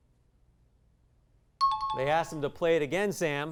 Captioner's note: high-pitched tones